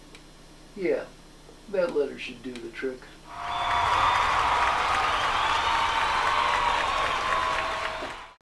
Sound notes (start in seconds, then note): 3.3 applause